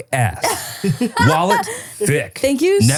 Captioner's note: laughing